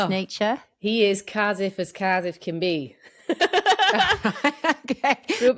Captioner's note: laughs